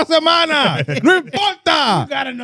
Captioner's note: speaking In Foreign Language